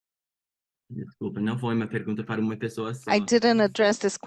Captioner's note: speaking Portuguese